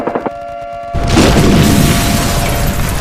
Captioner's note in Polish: eksplozja